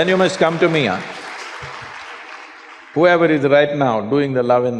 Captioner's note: applause